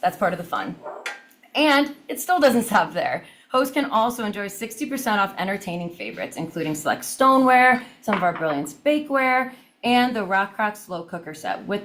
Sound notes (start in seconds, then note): none